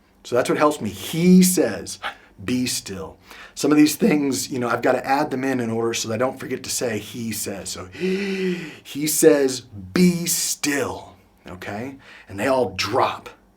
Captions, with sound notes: So that's what helps me, He says, "Be still." Some of these things I've got to add them in in order so they don't forget to say, he says. So (inhales heavily) he says, "Be still," okay? And they all drop.